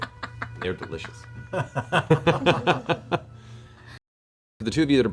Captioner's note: all laugh